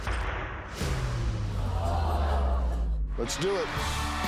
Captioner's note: audience gasps